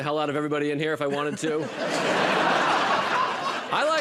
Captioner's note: laughter